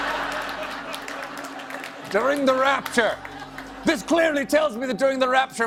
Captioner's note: laughter